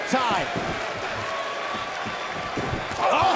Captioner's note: crowd cheering